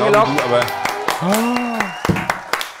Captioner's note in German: Jubel, Applaus